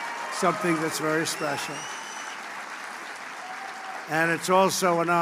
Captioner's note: applause